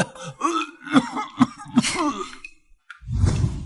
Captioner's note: cough cough